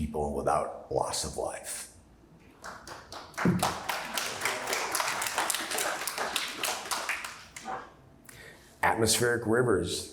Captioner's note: applause